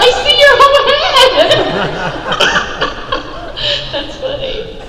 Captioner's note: laughing